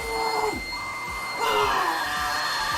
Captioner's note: fax machine beeping